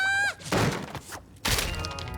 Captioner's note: clatter; thud